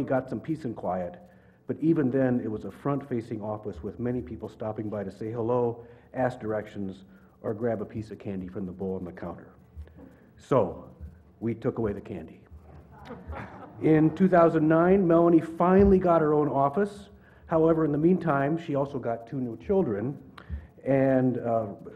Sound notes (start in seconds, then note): 12.7 laugh